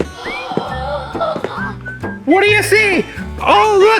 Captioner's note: assistant gasps